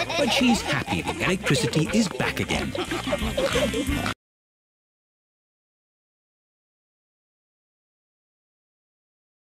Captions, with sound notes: but she's happy the electricity is back again. (ALL GIGGLING AND SNORTING)